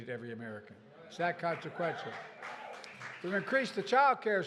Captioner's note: applause